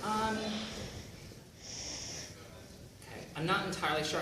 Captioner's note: none